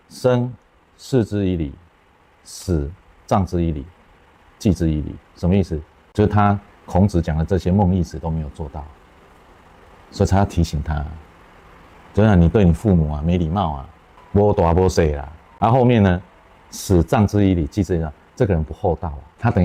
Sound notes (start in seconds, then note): 14.9 in Taiwanese